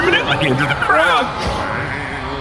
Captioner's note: crowd screaming, muttering to himself